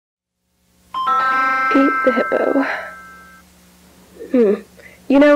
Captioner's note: electronic chimes